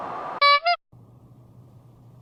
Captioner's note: clown horn